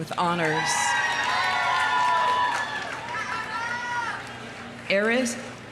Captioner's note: audience cheering; audience applauding